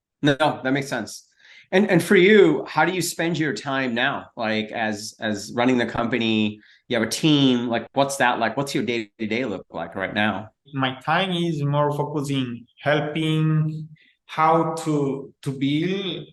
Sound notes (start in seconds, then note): none